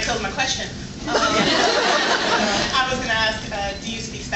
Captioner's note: laughs